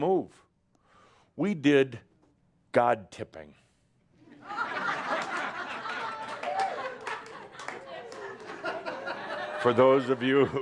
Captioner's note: laughter